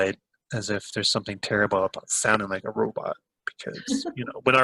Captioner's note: laughs